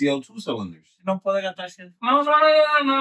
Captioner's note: speaking In Foreign Language